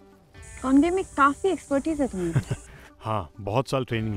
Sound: Keshav laughs

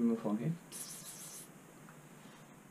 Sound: pss pss pss pss

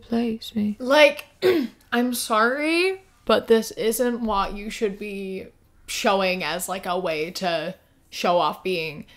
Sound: clears throat

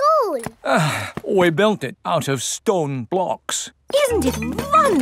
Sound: sighs

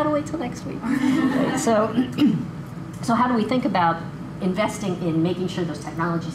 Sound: laughter

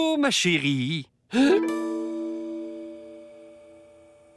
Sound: gasps

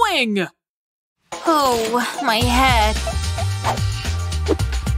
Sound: moaning

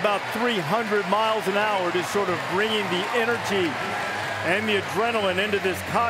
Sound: applause

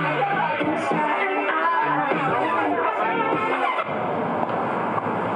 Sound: buss engine revving

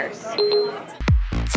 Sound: beeping

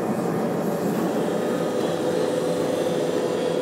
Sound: machine whirring

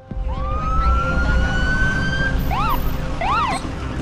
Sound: sirens wailing

